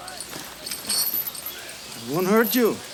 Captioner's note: chain clinks